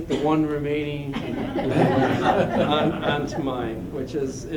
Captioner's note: laughter